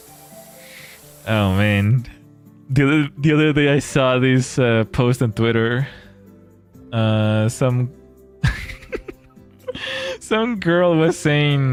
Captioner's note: laughter